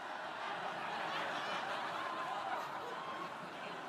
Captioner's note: crowd laughing